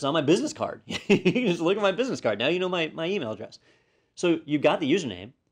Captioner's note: laugh